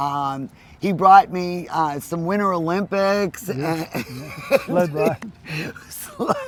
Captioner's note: laughs